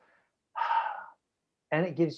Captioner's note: sigh